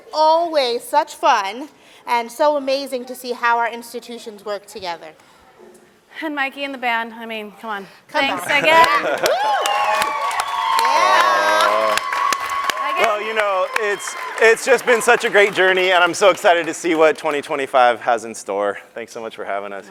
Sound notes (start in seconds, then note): 8.2 laughs; 10.1 audience claps and cheers